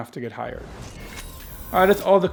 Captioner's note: whooshing